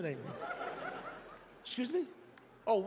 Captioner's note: audience laughs